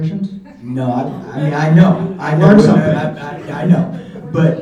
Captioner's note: laughing